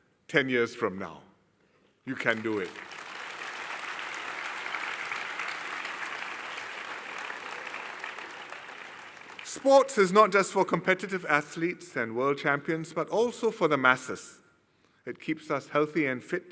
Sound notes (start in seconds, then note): 2.1 applause